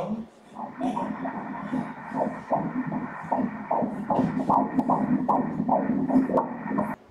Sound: heart beats

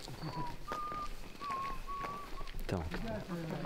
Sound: whistles

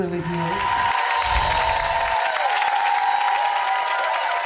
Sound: audience applauding

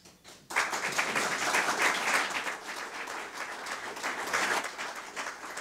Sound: audience applause

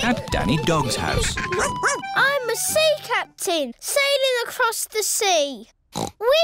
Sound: barks; oinks

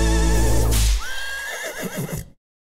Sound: whip noise; horse neighing

